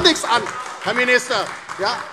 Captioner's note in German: Beifall DIE LINKE und SPD